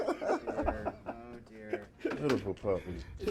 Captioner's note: laughter